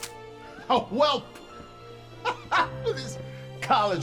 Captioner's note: laughing